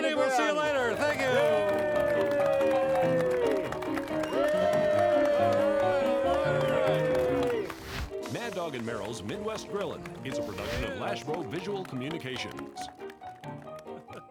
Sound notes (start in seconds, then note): 2.3 audience clapping; 5.4 audience cheering